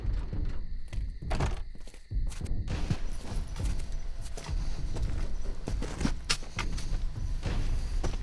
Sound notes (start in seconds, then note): 1.4 door closes; 3.6 drums continue